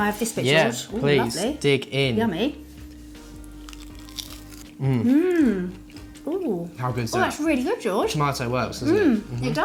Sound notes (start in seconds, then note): 3.6 crunching